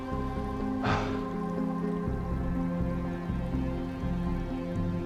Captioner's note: Adrian sighs